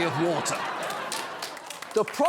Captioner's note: laughter